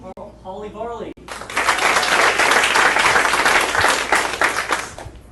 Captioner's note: audience applauding